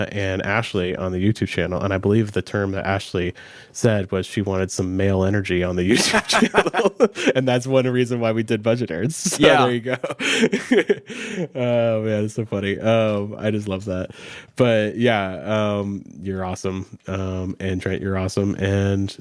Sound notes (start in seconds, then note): 5.9 laughs; 9.1 chuckles